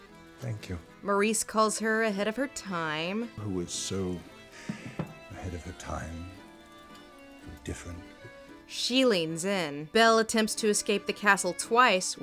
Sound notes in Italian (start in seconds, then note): 9.0 voce fuori campo